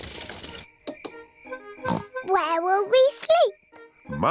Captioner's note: oinks